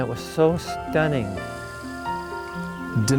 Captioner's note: grass rustling